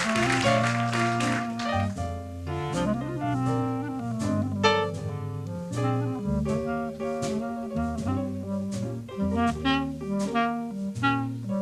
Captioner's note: applause